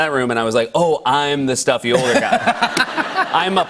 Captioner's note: laughter